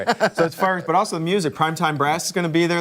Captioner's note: laughter